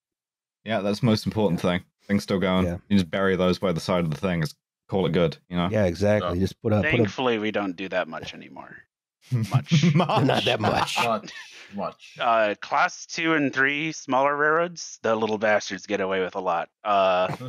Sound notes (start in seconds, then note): 9.3 chuckles; 9.4 laughing; 9.4 laughs; 17.2 laughter